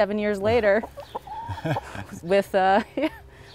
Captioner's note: laughs